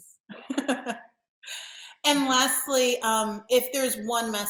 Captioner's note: laughs